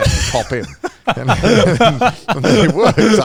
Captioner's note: all laughing